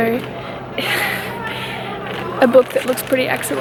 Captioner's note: sigh-laughs